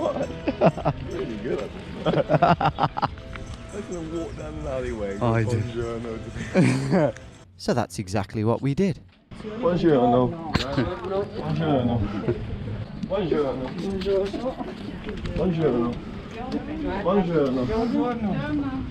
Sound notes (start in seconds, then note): 0.0 laughing; 2.0 both laughing; 2.0 laughing; 6.3 laughing; 9.5 speaking in a foreign language